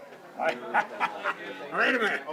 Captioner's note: laughs